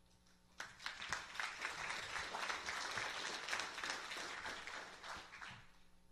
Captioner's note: applause